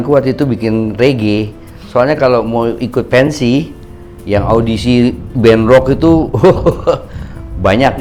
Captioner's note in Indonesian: tertawa